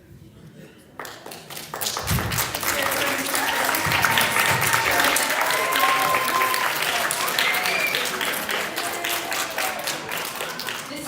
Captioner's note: applause